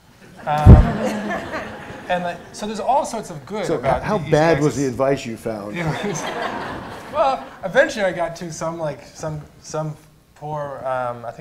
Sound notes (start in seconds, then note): 0.3 laughter; 5.7 laughter